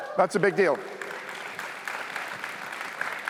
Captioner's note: cheers, applause